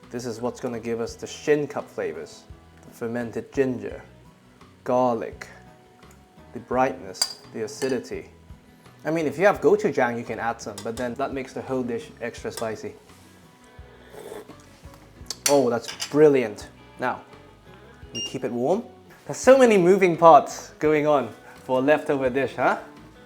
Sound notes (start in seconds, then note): 14.0 slurps